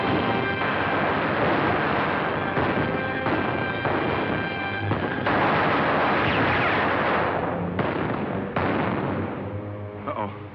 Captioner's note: gunshots